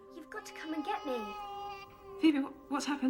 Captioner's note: baby crying